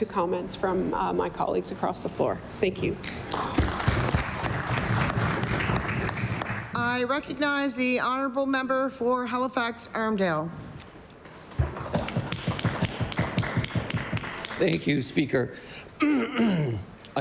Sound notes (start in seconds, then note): 6.5 applause